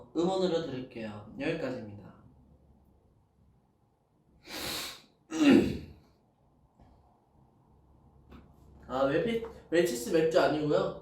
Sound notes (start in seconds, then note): 4.4 sniff; 5.3 clears throat